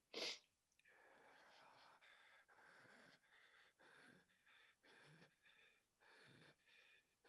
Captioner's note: breathing deeply